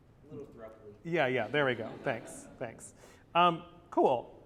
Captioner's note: laughs